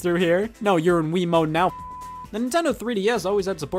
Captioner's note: beep